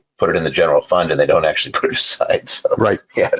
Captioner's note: laughing